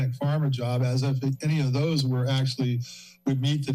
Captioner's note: inhales